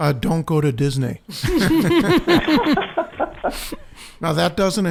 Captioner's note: laughing